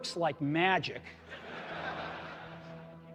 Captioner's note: laughter